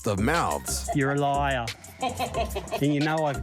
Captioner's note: laughs